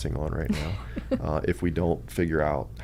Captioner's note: laughs